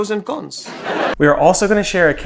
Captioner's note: audience laughs